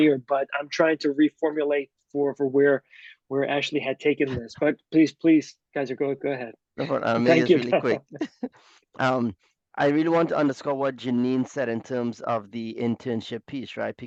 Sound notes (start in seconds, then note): 6.8 chuckles